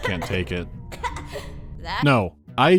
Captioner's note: coughs